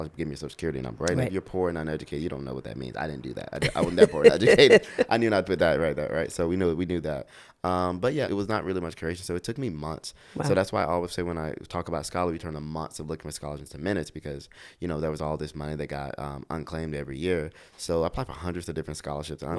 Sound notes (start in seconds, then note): 3.6 laughs